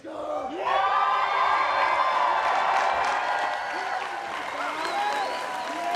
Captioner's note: cheering and applause